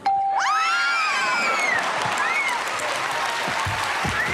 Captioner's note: cheers and applause